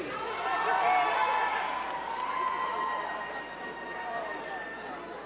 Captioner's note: crowd cheering and clapping